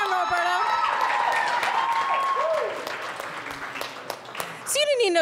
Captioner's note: audience applauds and cheers